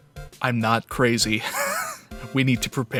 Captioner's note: wheeze